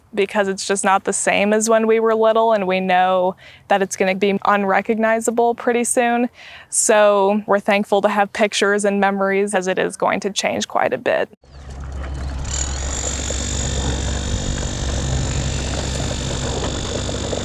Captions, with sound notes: because it's just not the same as when we were little, and we know that it's going to be unrecognizable pretty soon. So we're thankful to have pictures and memories as it is going to change quite a bit. [power tool noise]